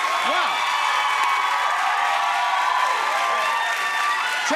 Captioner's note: cheers and applause continue